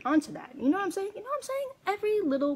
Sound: high pitched

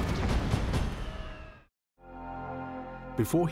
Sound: planes roaring

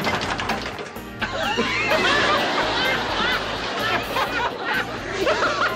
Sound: laughter

